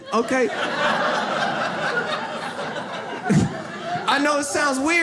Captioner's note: audience laughs